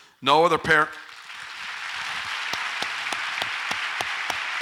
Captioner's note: audience applauds